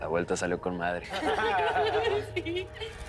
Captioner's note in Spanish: Risas